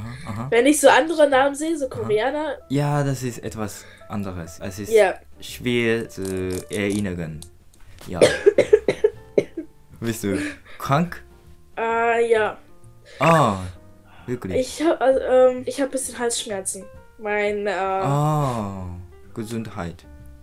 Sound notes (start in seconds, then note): 8.1 coughing